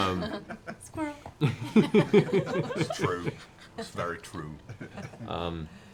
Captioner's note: Grog voice